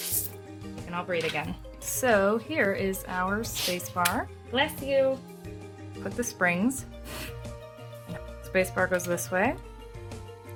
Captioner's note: dog sneeze